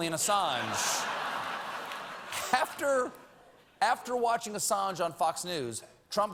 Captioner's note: laughter